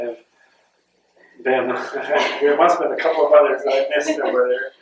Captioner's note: laughter